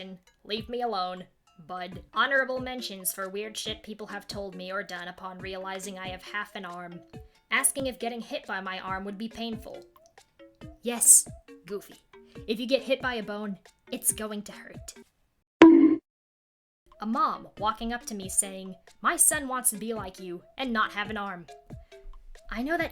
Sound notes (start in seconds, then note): 15.6 BONK sound effect